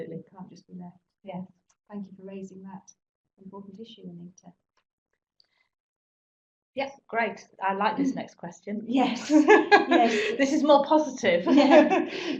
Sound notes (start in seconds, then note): 9.1 laugh